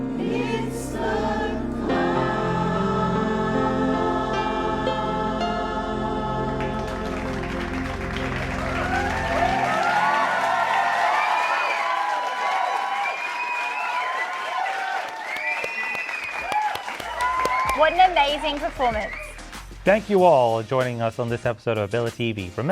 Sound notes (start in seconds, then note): 6.6 applause; 6.9 cheering